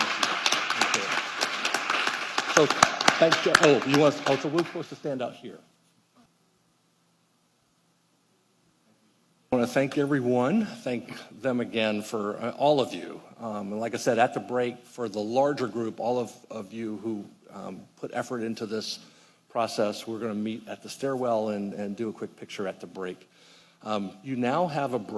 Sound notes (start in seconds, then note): 5.7 applause